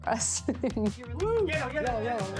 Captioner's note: laughs